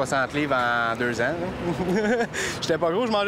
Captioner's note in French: petit rire